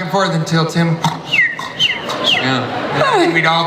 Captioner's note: imitates snoring